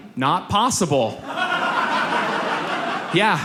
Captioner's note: audience laughs